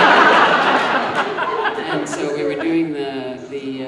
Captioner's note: audience laughing